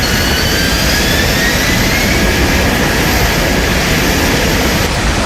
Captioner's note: jet engine whistling